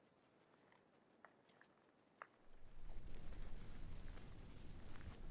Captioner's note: gravel crunching